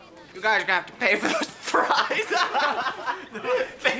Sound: laughing

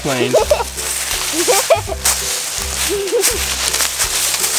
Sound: assistant giggles

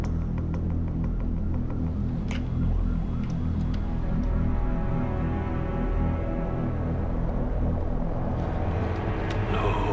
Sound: siren wailing

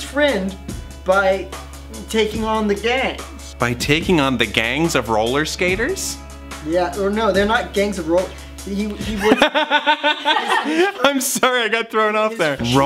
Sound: laughs

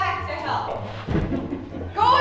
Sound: evil Chuckle

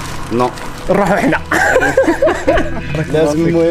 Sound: laughter

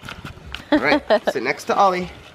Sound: laughs

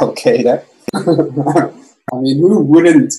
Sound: laughs

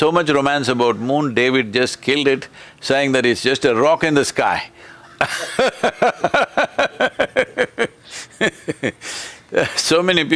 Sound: laughter

